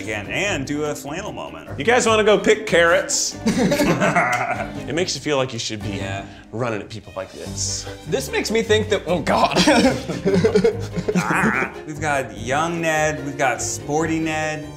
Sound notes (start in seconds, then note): 3.4 group laughs; 9.4 laughs